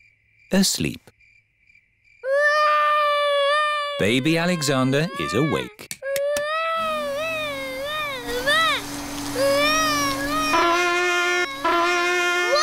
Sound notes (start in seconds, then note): 2.2 baby alexander crying; 6.8 vacuum cleaner whirring; 9.5 trumpet blowing